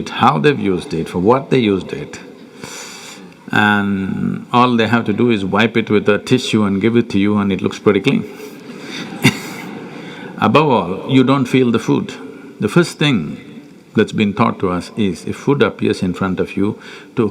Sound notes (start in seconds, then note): 8.6 laughter